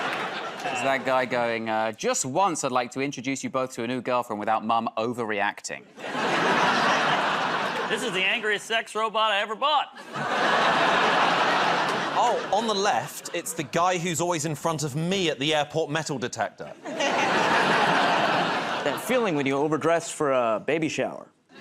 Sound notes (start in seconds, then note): 0.0 laughter; 6.0 laughter; 10.0 laughter; 16.6 laughter